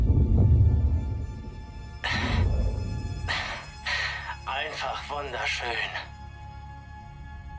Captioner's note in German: seufzt